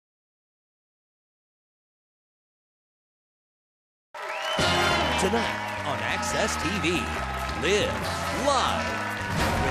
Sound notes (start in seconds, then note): 4.1 audience applauds